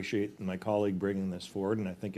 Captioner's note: speaking French